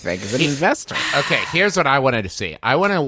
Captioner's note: sighing